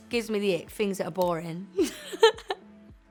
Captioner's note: giggles